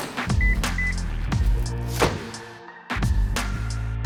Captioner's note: energetic music; car beeping; energetic music